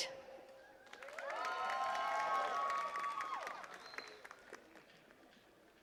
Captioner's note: attendees cheering and clapping